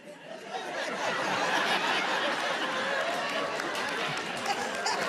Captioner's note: audience laughing